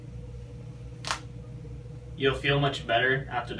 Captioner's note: cracks knuckles